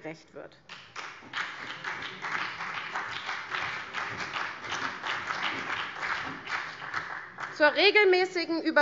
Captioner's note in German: Beifall CDU und BÜNDNIS 90/DIE GRÜNEN